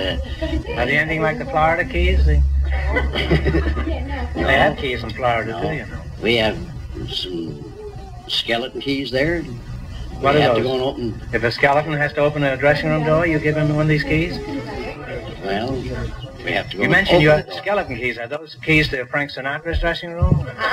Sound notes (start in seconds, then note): 2.8 he laughs